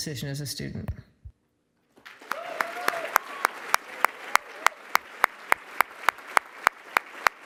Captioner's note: applause